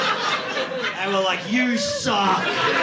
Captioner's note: audience laughing